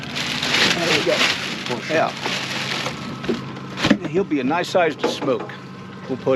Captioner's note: bas rustling